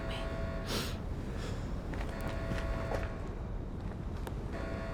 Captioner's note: alarm blaring